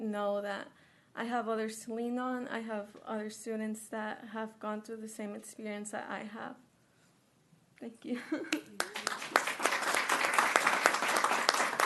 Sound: applause

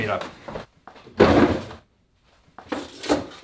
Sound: opens drawer

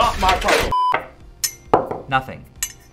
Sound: magnet & copper noises

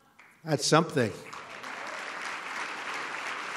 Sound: applause

